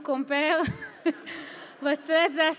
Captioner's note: laughs